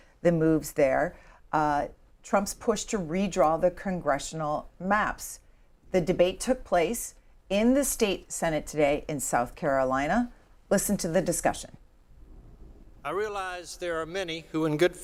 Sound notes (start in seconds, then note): none